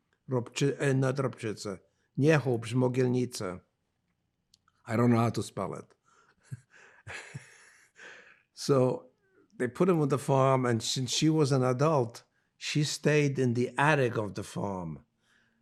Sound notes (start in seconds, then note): 6.5 laughing